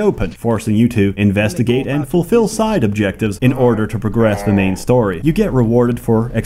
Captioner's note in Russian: Пол Дентон: *стоны